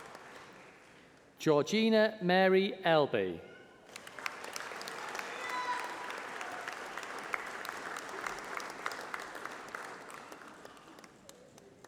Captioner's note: applause